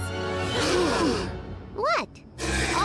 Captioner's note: all gasp